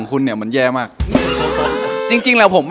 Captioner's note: laughs